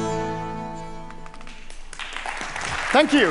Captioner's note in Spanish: Aplausos